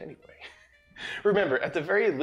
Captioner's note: laughs